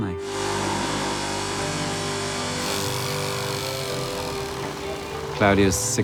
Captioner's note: machines buzzing